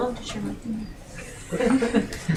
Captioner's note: laughing